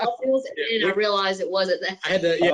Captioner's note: laughs; group chattering